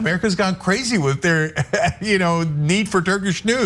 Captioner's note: laugh